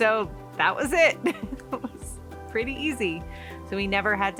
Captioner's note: laughing